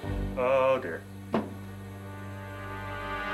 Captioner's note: thud